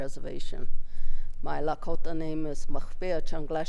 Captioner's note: speaks in Lakota